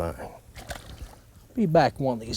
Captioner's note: splash